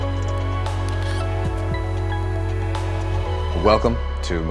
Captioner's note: graphics buzzing